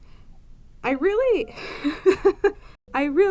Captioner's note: laughs